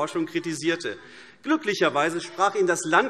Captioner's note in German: Zurufe DIE LINKE